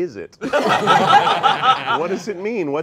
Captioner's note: all laughing